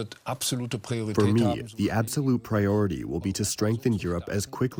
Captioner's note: through translator